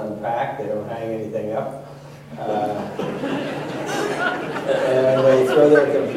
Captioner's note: laughter